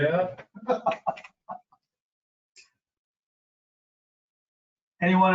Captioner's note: facilitator laughing